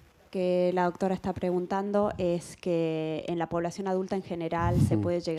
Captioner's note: attendee speaks spanish